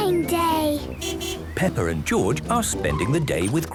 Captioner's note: beeping